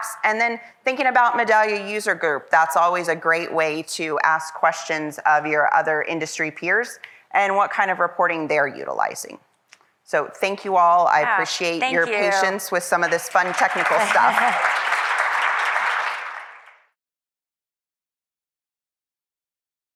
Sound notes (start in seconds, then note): 14.5 panelists applauding